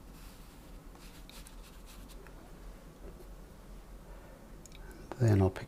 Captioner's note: silence